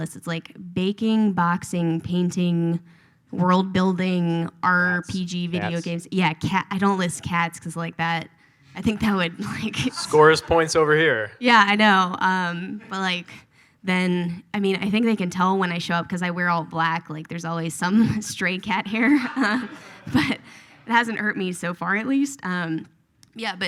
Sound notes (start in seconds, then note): 9.6 laughs; 18.9 audience laughs